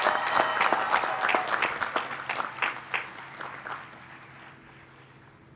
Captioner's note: applause